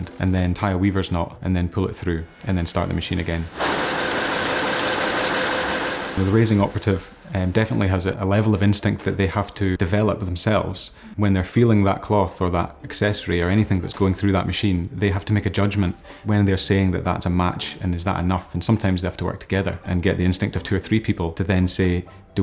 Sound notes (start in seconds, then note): 3.1 machine whirring